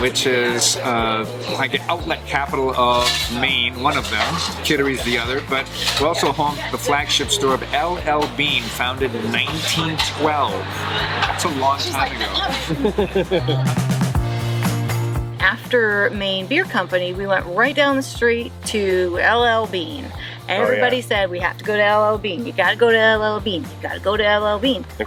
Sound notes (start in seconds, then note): 13.1 laughing